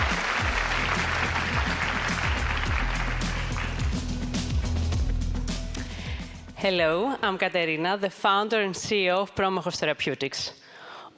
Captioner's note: applause